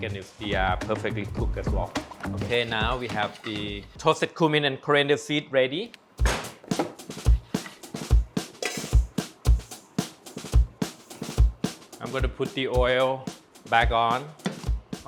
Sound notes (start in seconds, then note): 6.2 blender taps on counter; 8.5 pans clank; 9.9 upbeat music